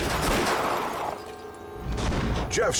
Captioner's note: gun shots